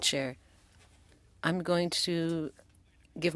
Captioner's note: speaking French